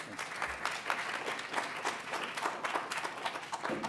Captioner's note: applause